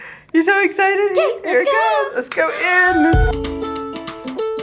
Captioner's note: upbeat playful music; gasps